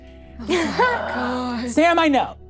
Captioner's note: all gasping